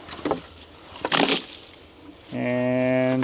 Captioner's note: water splashes